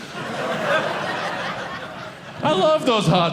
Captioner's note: audience laughing